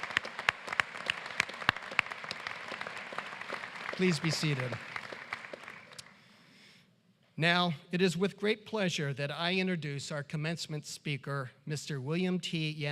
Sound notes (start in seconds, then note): 3.7 applause